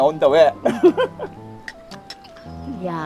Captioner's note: both laughing